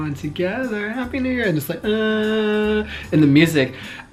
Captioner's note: humming